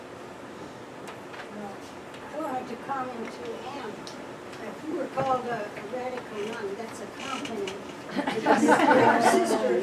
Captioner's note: laughter